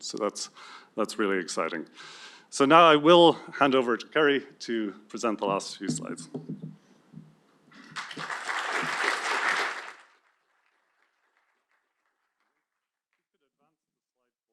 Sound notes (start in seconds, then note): 7.8 applause